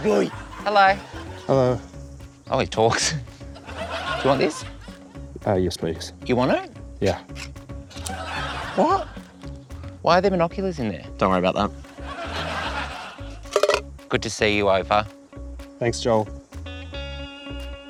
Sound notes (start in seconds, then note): 11.9 laughter